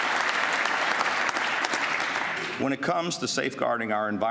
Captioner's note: applause